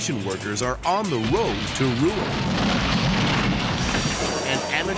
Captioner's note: building crashing